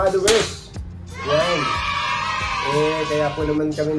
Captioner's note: crowd cheering